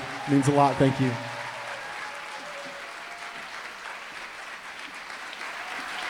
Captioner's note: applause, cheering